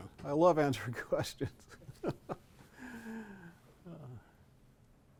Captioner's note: chuckles